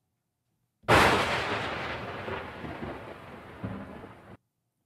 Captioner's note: thunder cracks